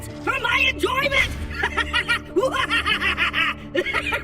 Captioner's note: laughs maniacally